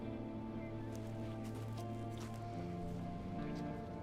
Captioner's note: slow footsteps